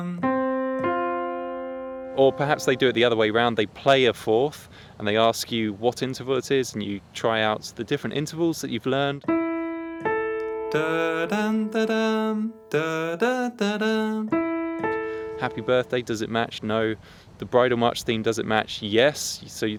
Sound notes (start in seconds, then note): 10.6 hums